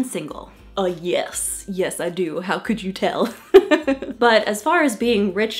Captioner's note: laughs